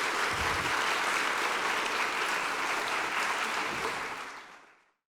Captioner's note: audience applauding